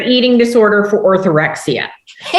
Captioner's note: laughter